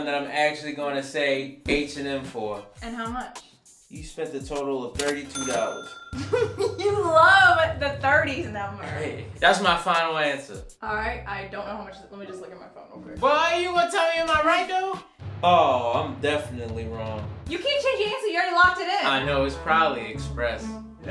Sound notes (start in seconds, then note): 5.2 ka-ching